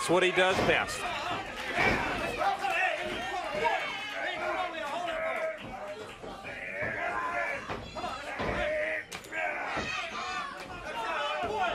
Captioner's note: crowd cheering